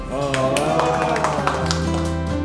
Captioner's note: clapping energetically